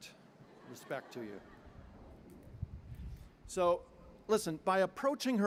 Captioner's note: laughter